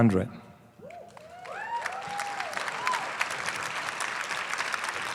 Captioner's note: applause